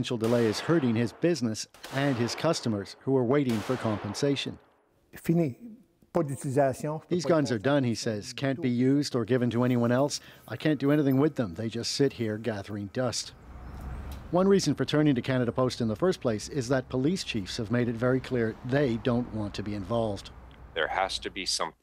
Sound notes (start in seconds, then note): 11.7 speaking French